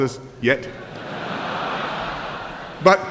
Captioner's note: laughter